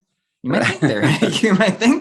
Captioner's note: chuckles